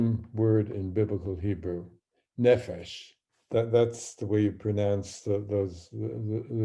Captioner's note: speaking hebrew